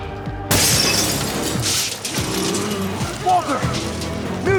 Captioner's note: intense music continues; glass shatters